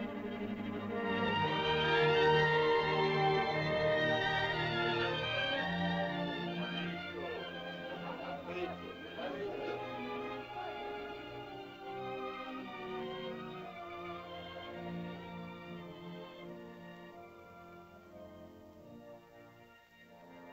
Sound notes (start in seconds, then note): 1.0 uplifting music; 6.5 indistinct caveman chatter; 12.3 soft music; 20.3 soft suspenseful music